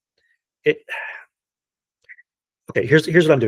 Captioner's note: sighing